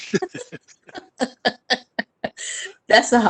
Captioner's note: chuckles